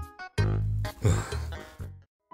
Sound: sigh

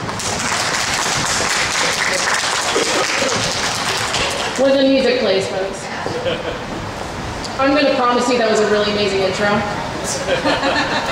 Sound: laughter

